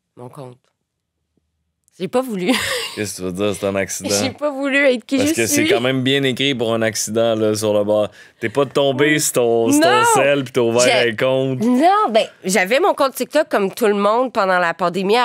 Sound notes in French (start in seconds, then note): 2.4 rire d'